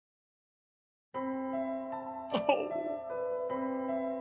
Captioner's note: gentle music; sobs